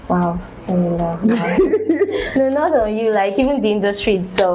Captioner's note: laughs